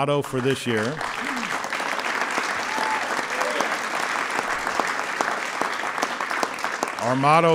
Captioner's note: applause